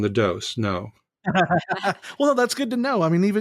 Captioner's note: laughing